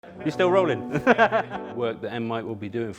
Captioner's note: laughs